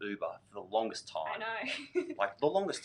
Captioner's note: laughs